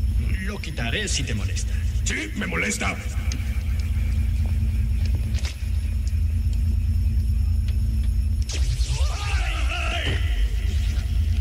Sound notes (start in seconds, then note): 3.0 machines hum; 8.4 electricity noise; 10.2 sound of flames